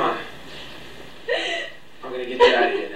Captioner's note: Rachel sobs